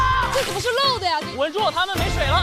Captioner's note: splash